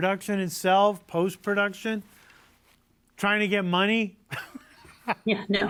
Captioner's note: laughs